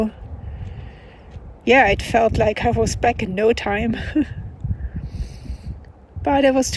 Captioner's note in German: lacht